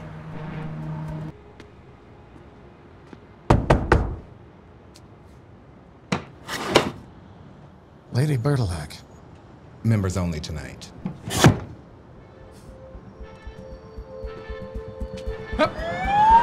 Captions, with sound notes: (footsteps plod) (Chuck knocking) (slider clicks) - Lady Berdelhack. - Members only tonight. (slider thuds) (thrilling music) - Up.